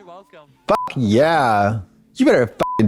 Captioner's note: beep; beep